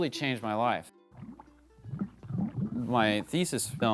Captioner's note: gurgling